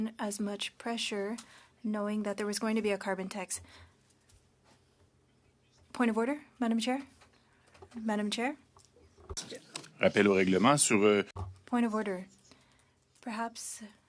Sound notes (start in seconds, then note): 12.0 speaking French